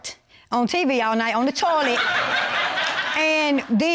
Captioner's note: audience laughs